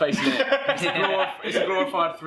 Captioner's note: laughter